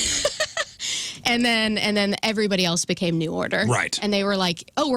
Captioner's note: laughs